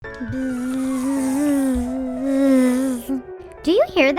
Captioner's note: playful music; insect buzzes